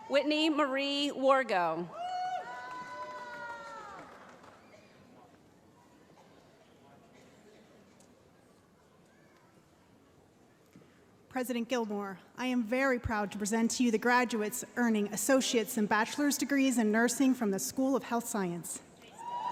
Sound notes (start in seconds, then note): 1.9 cheering